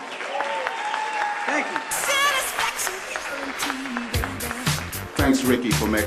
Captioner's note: applause